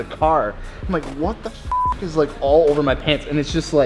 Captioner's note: beep